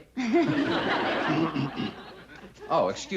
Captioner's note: clears throat